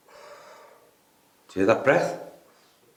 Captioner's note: gasping